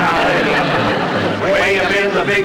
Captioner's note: audience Laughing